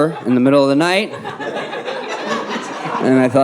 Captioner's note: audience laughing